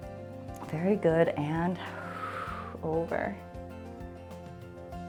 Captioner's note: exhales